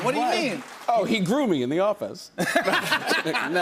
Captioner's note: laughter